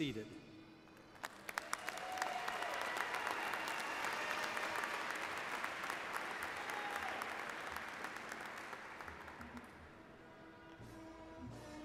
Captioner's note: cheers and Applause